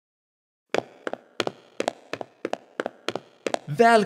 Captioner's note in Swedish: fotsteg